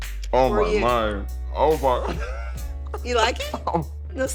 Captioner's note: laughs